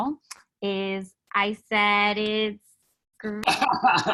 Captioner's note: speaking faintly